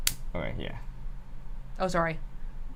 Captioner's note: flicks lighter on